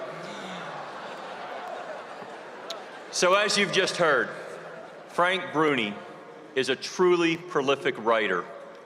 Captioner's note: laughter